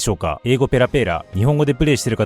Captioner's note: rapid-fire English